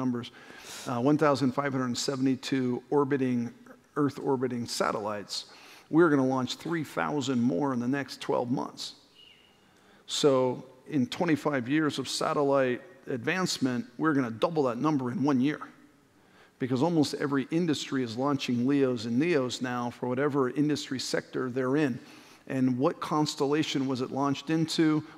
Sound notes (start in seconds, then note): 9.1 whistle